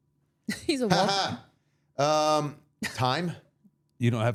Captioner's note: laughing